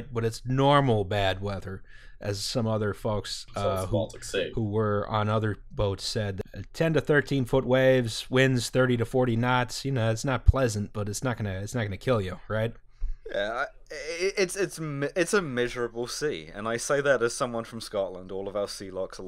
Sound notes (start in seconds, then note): none